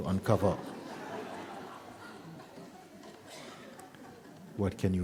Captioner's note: laughter